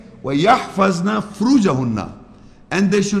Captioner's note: Arabic